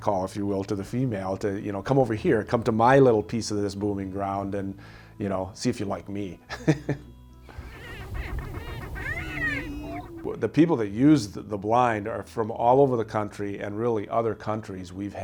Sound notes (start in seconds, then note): 7.5 chicken chirping; 7.5 laughing; 11.6 mellow music